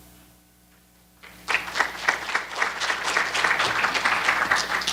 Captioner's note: applause